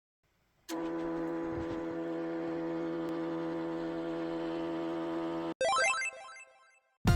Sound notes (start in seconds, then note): 0.7 printer noise; 5.6 gleeful bloop